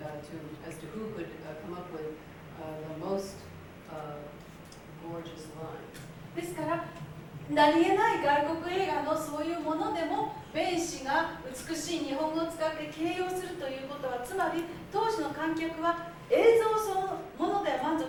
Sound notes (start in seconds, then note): 6.5 speaking Japanes